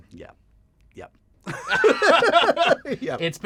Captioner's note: laughter